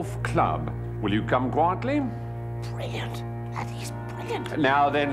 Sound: whispering

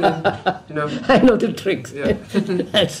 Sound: laughs

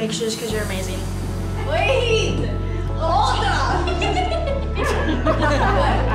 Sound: laughs; laughter

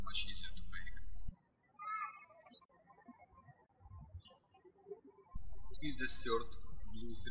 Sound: birds chirping

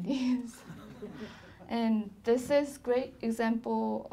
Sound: laughing

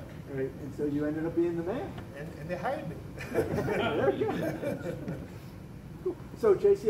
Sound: laughter

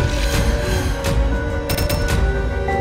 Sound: breathes heavily; musical sting

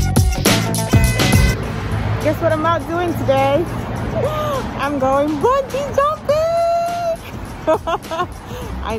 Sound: laughs

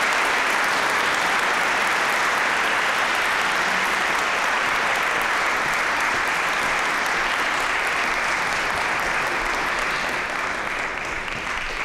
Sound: applause, cheering; applause

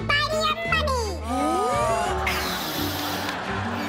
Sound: laughs; inhales, blows

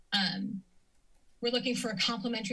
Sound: silence

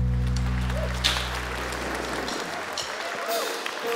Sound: audience clapping; drumsticks tapping

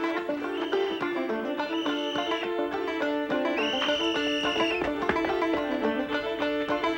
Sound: upbeat acoustic music; police whistle chirping

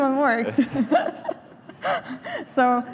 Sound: laughter

